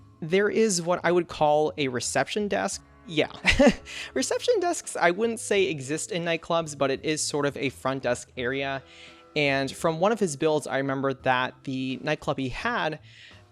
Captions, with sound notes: There is what I would call a reception desk. Yeah! (Laughs) reception desks I wouldn't say exist in nightclubs, but it is sort of a front desk area. And from one of his builds, I remember that the nightclub he had,